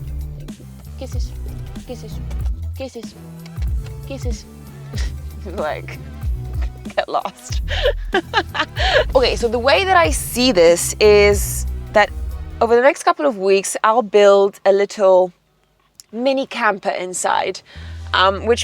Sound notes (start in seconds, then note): 3.3 smacks lips; 6.4 laughs